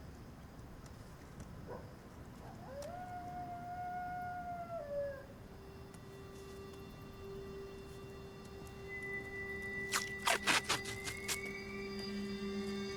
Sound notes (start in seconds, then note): 2.4 coyote howling in distance; 6.2 eerie music playing